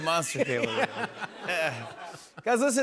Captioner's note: laughs